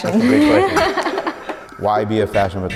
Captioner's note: laughing